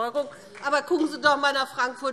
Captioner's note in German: Beifall